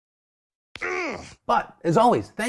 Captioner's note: grunts